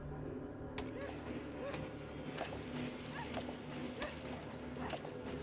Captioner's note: splashing water